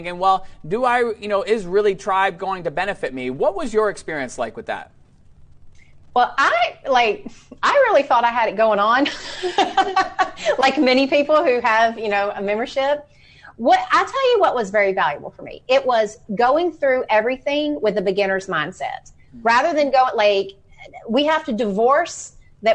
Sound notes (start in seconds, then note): 9.0 laughs